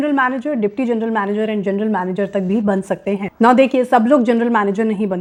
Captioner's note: speaking hindi